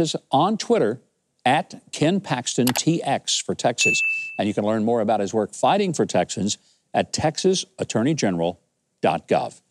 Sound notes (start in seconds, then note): 3.8 bell dinging